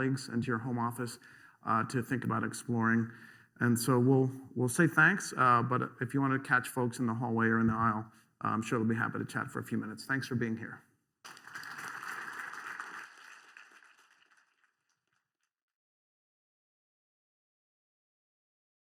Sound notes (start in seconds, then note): 11.2 applause